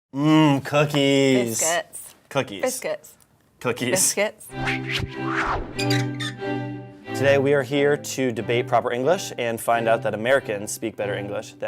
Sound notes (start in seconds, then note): 4.5 air whooshes; 4.5 regal music; 5.8 hinge squeaks